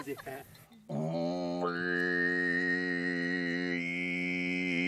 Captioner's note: male vocalises